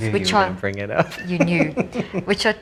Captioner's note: laughing